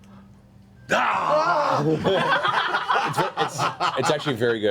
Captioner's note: laughter